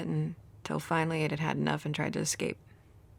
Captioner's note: none